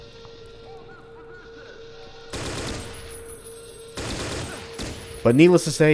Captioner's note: M16 firing